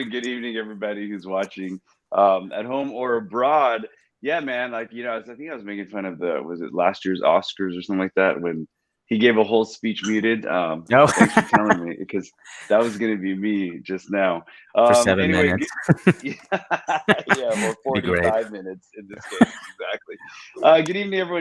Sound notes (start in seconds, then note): 10.9 laughs; 16.7 laughs; 17.5 Jet laughs